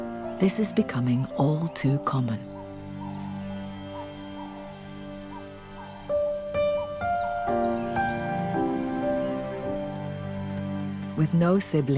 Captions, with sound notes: But she's quickly surrounded... (hyenas laughing) ...And outnumbered.